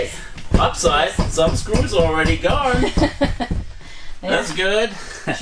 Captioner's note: laughing